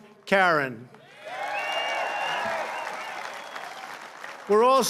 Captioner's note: applause